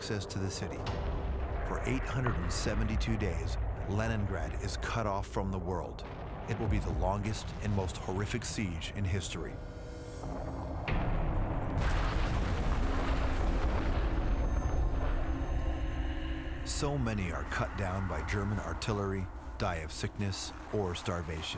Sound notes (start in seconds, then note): 12.0 explosions